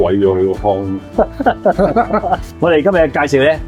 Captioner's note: hahaha